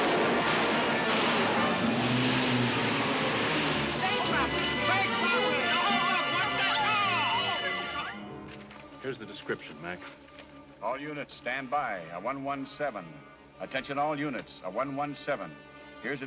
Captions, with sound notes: (GUNS FIRING) (PEOPLE CLAMORING) (ALARM RINGING) Here's the description, Mac. All units stand by, a 117. Attention all units, a 117.